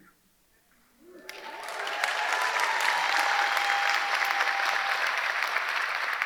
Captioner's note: audience applauding; audience cheering